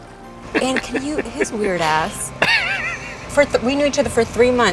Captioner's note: laughs